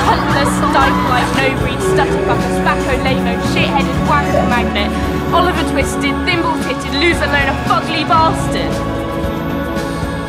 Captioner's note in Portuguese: xingamentos